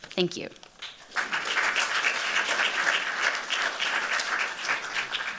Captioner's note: applause